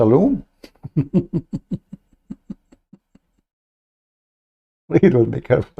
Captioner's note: Ketawa